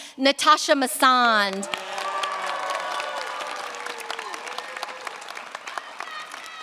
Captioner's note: cheers, applause